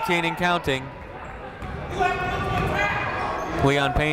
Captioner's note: people shouting in the crowd